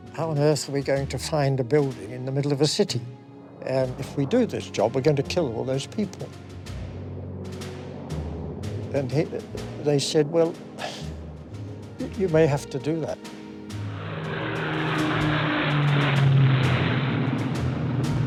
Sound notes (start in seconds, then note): 7.6 dramatic music; 14.3 Mosquito engine roaring